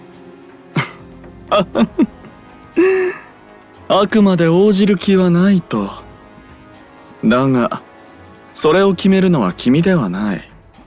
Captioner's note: laugh